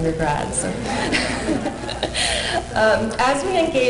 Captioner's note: laughter